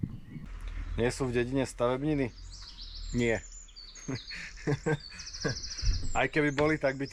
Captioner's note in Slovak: smiech